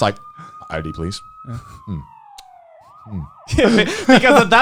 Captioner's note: police sirens wailing